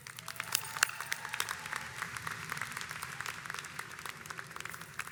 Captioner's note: audience applauds